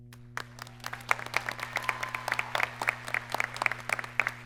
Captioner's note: audience clapping